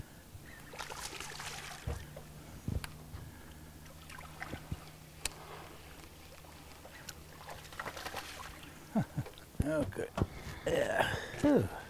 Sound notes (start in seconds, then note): 0.6 fish splashing; 8.8 chuckling